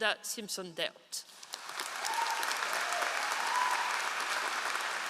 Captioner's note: all applauding